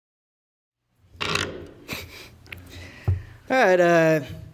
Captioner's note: microphone creak